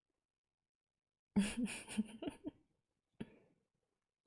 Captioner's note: laughs